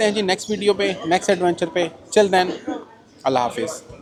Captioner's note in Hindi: गला साफ़ करने की आवाज़